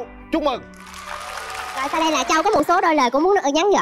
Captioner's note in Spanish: Aplaudir